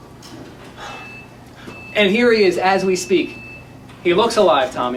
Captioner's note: sighs